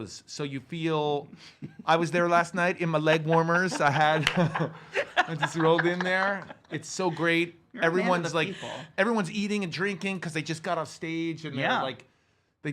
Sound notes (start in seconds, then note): 2.9 laugh; 3.0 laughs